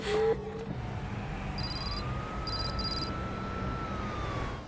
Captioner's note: text clicking